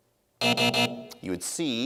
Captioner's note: buzzing